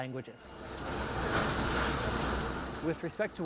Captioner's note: cucumbers moving along conveyor belt